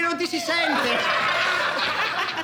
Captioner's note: all laughing